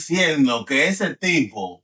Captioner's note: speaking In Foreign Language